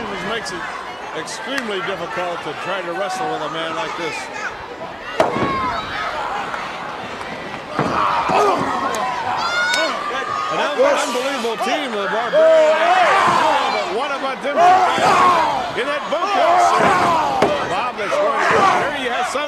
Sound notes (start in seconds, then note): 4.3 crowd chatter